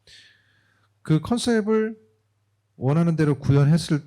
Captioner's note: speaking korean